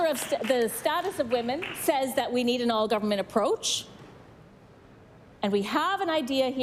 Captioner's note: some Applause